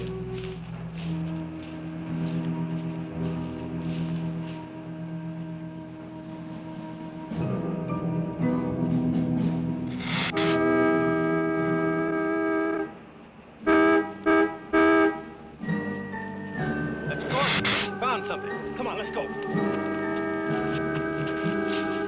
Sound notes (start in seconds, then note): 0.1 soft suspenseful music; 9.9 horn blaring; 10.0 gila monster hisses; 15.6 ominous music; 19.5 horn blaring